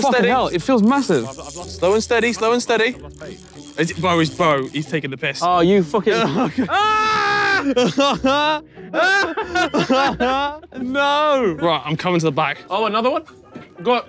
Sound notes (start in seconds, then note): 6.6 screams; 8.0 both laughing